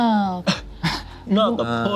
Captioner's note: group laughs